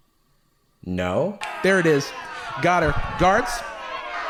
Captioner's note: rowdy crowd